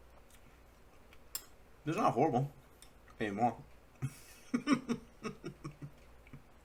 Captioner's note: laugh